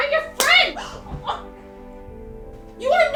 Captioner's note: hard slap; Joanna grunts